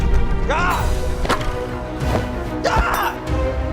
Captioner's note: grunts; screams